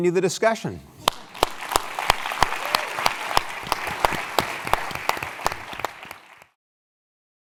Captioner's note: applause